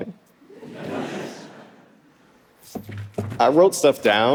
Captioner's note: audience laughing